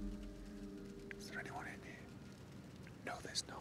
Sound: whisper

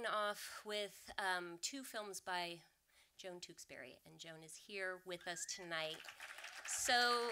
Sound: audience applause

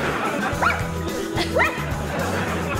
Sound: laughing; dog barking

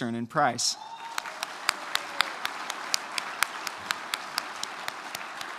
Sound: applause

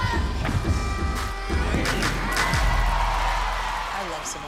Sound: crowd cheering

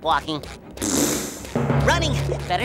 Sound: raspberry sound

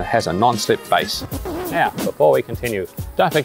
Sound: record scratches

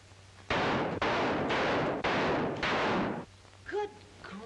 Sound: gunfight

